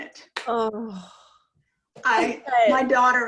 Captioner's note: moans